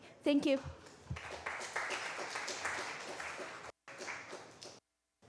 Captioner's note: applause